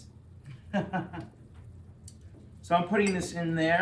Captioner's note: laughing